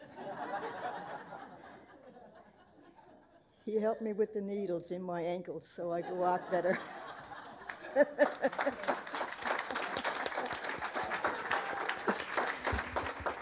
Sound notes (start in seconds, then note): 6.0 laughter